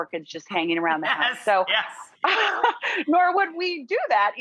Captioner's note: laughs